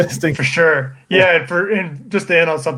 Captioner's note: laughing